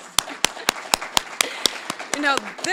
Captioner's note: applause